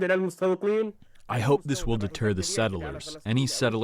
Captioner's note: through translator